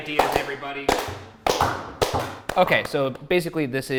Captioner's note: clapping